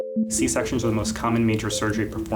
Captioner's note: mysterious music; voiceover